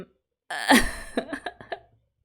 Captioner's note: laughs